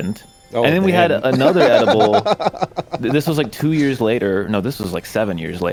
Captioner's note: laughs